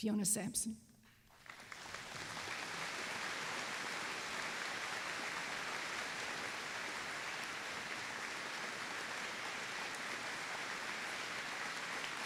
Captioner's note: applause